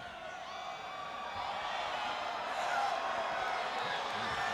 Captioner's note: crowd cheering